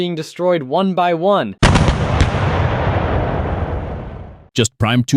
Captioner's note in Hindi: तोपखाने की बमबारी।